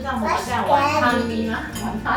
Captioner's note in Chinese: 英语